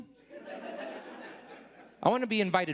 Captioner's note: audience laughing